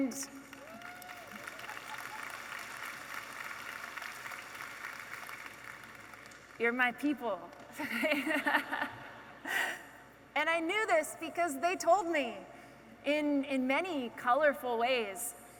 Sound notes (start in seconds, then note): 0.4 audience applauding; 7.8 all laughing